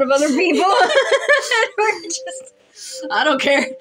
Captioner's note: laugh